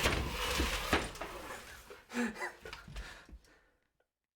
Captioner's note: clunking of drill falling; laughing